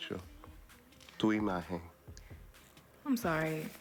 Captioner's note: speaks in spanish